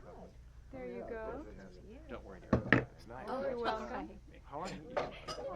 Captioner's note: people continue chattering